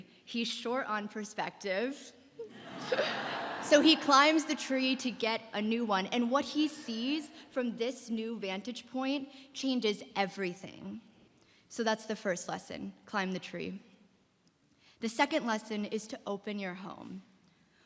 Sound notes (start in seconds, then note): 2.4 laughter